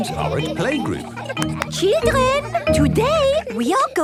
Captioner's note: clapping